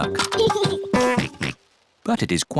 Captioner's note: giggles and oinks